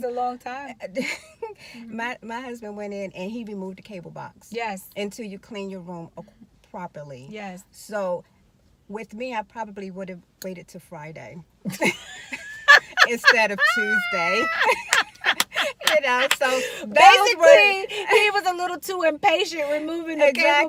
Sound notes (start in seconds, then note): 11.8 laughing